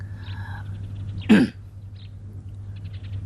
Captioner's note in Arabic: سعال